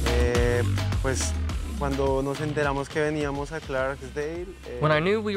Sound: speaking in Spanish

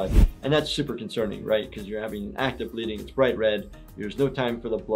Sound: none

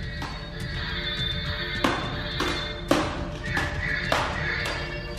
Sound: swords clanging together

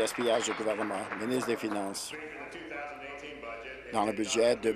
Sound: applause

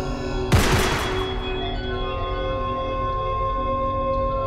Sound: gun shoots

